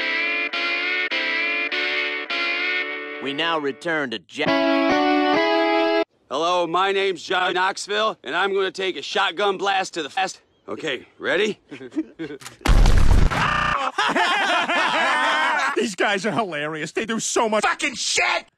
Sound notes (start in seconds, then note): 11.7 all Chuckling; 13.3 stuttered Screaming; 13.6 all Laughing